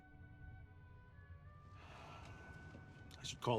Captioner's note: Mr. Chue exhales frustratedly